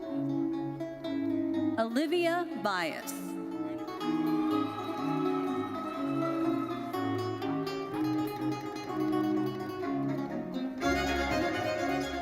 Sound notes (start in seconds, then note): 4.0 audience cheering and applauding